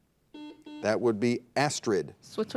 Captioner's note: buzzer dings